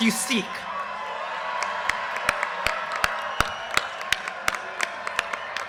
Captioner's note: audience cheers and applause